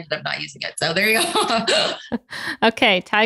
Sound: both laugh

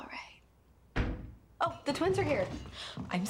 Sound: thudding

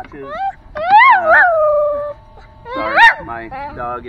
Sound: dog howling

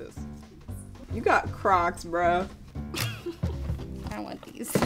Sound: laughs

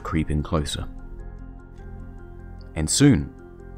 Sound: ticking noises

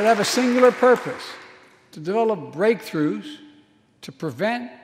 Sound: applause

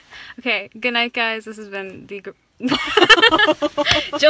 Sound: light goes out and we laugh

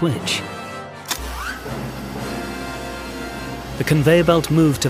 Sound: switch whizzing

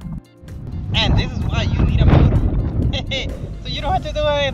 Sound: laughs

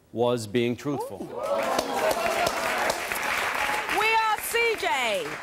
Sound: applause

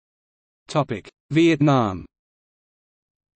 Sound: in Romanian

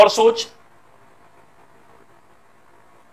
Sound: silence

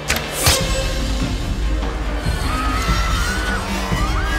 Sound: panicked crowd screams

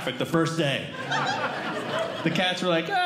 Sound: audience Laughing

